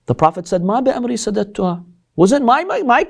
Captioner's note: Arabic